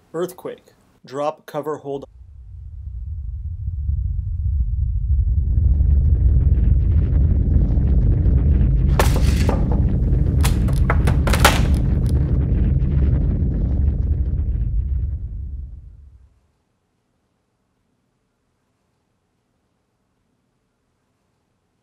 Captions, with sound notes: Earthquake. Duck, cover and hold on. (earth rumbling) (dishes smashing) (items thudding) (rumbling softening)